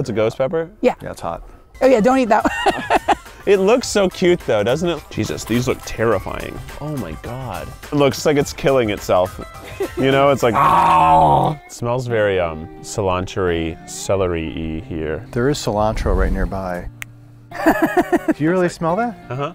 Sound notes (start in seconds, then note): 2.4 laughing; 10.5 growling; 16.9 snaps fingers; 17.5 laughing